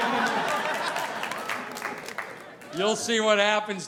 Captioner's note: audience applauding